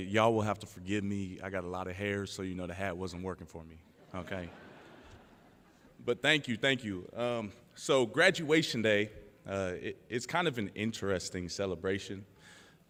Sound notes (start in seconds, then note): 3.9 laughter